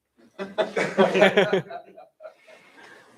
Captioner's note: laughter